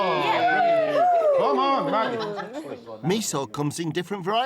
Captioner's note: all cheering; laughter